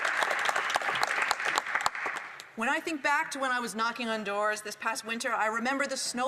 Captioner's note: some Applause